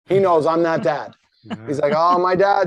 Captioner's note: laughs